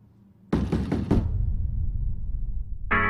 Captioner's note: knock on door; outro music